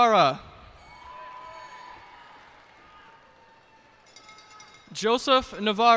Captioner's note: cheers and applause